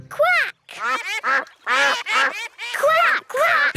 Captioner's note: quacking